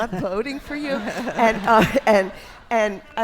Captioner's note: audience laughs